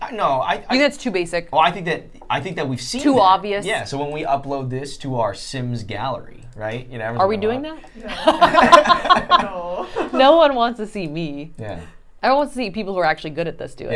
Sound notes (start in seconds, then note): 8.0 laughing